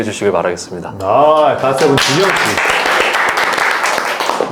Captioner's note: applause